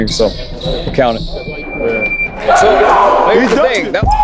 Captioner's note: cheers